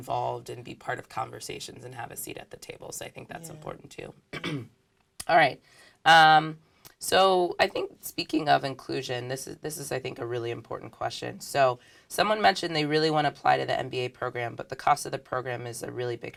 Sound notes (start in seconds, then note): 4.3 cough